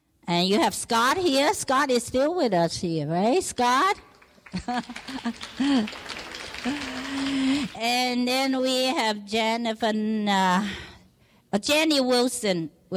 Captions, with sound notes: And you have Scott here, Scott is still with us eh Scott? (clapping) And then we have Jennifer, Jenny Wilson,